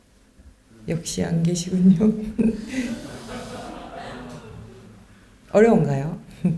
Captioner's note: laughs